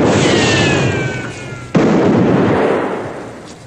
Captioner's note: popping continues